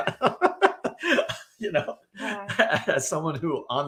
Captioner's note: laughing